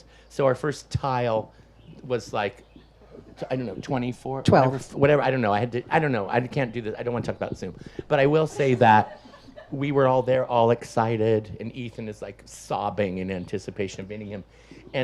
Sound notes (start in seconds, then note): 8.0 audience laughs